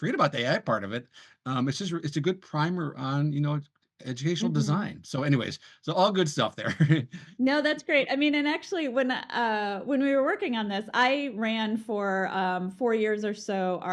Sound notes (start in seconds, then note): 6.7 laughs